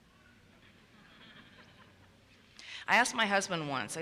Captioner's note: audience laughs